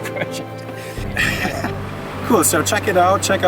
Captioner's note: both laugh